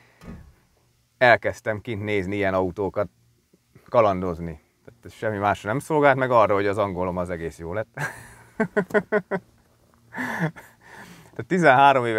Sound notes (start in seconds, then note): 8.0 chuckels